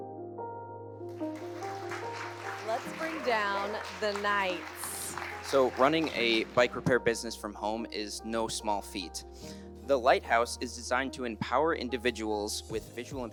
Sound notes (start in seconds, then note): 1.1 all applauding